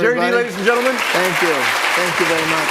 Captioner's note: applause